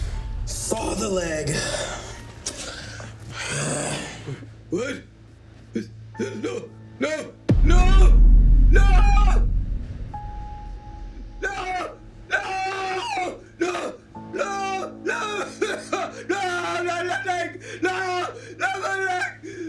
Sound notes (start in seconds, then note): 0.0 dramatic music; 3.3 Ben sighing